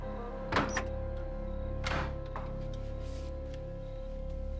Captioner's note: doors clicking